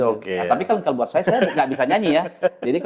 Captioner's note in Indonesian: tertawa